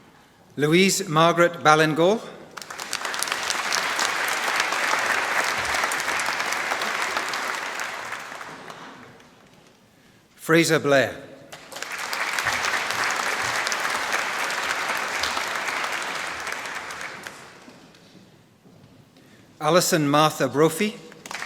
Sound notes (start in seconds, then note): 2.5 applause; 11.5 applause; 21.0 applause